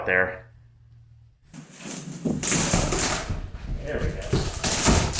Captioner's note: crunchy OSB removal noises